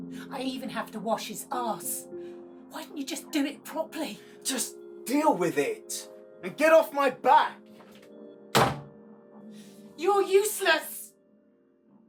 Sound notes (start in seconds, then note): 8.5 door thuds